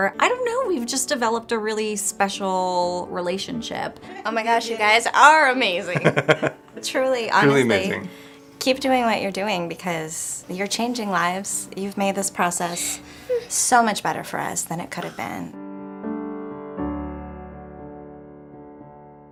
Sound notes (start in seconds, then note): 5.8 laughter; 16.1 mellow piano music